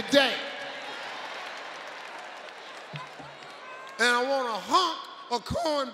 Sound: audience clapping

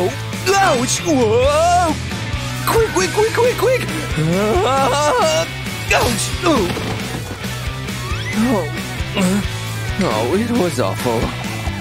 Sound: groans

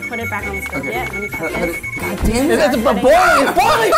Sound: yells

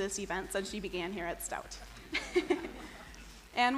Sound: chuckles

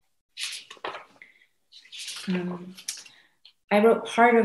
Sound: papers rustling

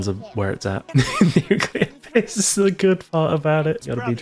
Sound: laughter

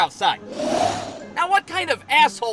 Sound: whoooosh

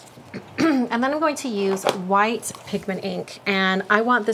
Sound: clears throat

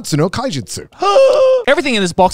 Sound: gasps

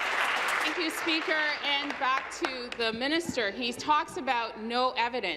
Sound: applause

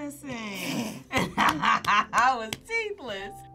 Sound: both laugh

